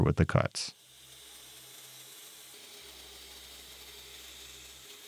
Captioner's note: machine whirring